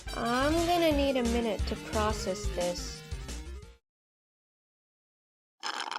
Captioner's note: groans